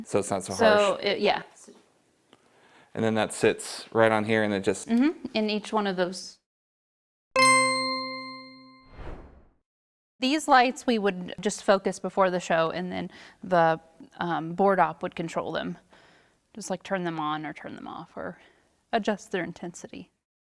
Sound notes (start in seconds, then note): 7.3 bell dings